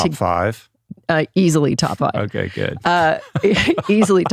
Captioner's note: laughs